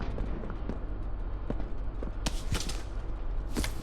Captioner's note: gun firing